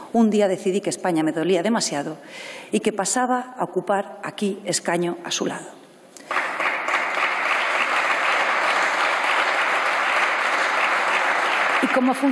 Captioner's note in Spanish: Aplausos